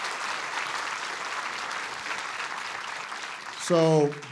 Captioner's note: applause